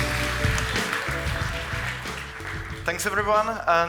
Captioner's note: audience applauding